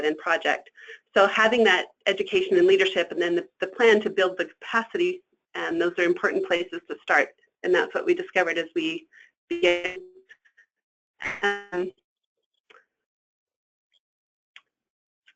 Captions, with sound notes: So having that education and leadership and then the plan to build the capacity, those are important places to start. And that's what we discovered as we (static)